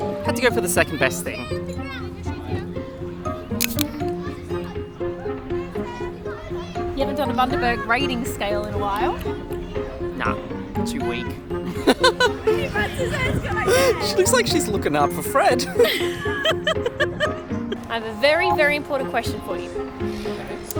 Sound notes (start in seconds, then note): 1.8 soft music; 3.6 bottle top crackling; 11.7 laughing; 15.6 both laughing